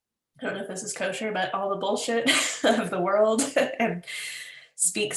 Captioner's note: laughs